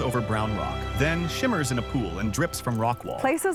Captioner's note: stream trickles softly